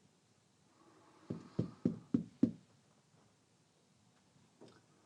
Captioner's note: light knocking